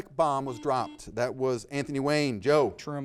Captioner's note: buzzer beeping